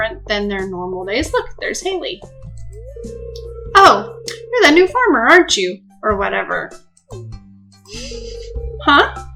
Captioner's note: laughing